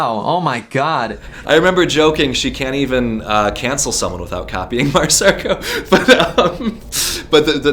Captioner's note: laughs